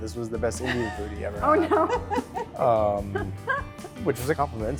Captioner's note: laughing